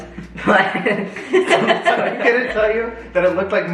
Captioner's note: family laughs